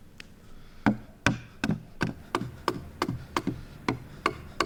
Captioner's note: tool banging